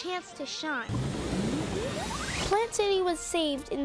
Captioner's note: silly blooping